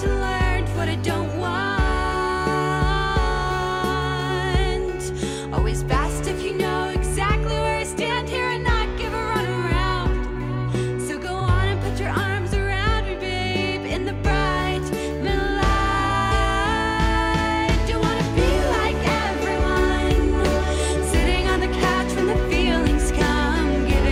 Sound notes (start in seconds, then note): 15.1 echo